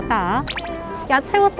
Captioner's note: light steps